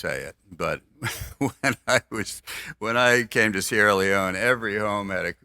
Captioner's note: laughs